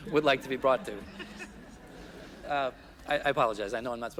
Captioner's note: people chuckling